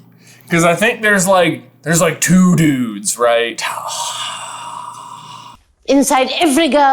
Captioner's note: groooooan